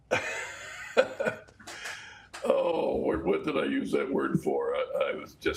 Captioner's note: chuckles